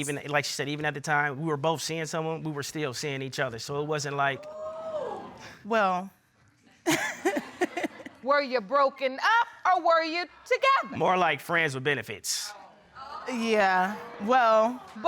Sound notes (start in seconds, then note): 4.6 audience hooting; 6.8 chuckles